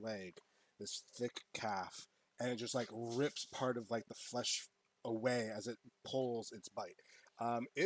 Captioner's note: rips